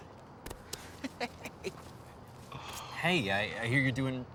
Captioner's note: laughs